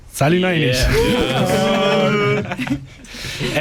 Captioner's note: drunk ape noises